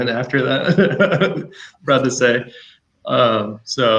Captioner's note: laughs